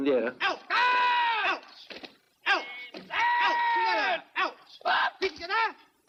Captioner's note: shouts